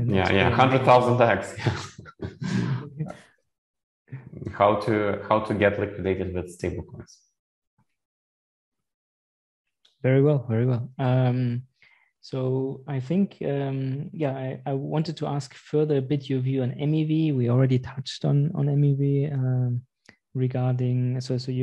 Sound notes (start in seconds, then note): 1.5 laughs